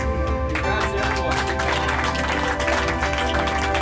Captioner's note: crowd chatter; clapping